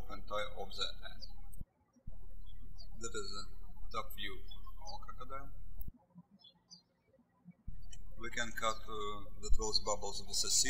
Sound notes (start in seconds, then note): 2.0 birds chirping